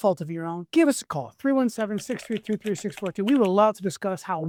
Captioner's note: keyboard tapping